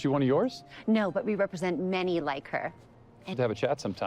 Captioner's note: none